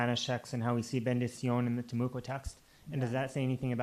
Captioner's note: spanish